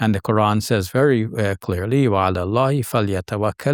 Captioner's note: speaking in foreign language